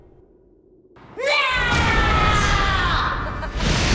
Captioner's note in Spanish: grita